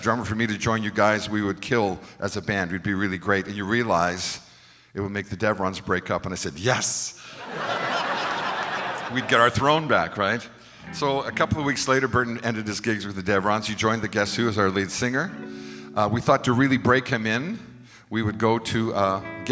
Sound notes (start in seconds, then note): 7.3 crowd laughs